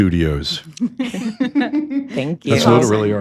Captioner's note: ladies giggling